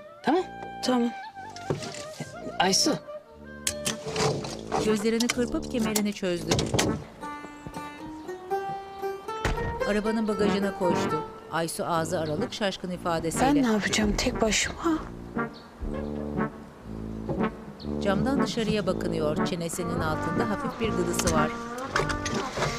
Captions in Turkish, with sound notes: -Tamam mı? -Tamam. Aysu. (Emniyet kemeri sesi) (Kapı açılma sesi) (Kapı kapanma sesi) Ben ne yapacağım tek başıma? (Müzik - Neşeli) (Kuş cıvıltısı sesleri)